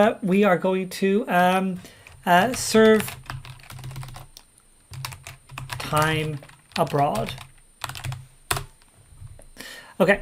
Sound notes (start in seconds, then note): 2.4 keyboard keys clank; 7.8 keyboard keys clank